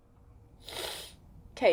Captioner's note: sniff